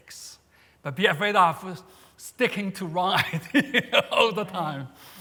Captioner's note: laughs